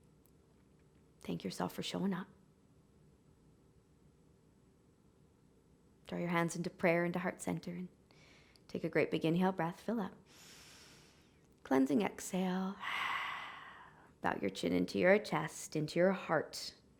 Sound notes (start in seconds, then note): 10.4 inhaling; 12.8 exhaling